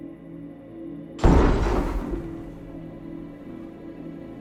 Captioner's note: loud bang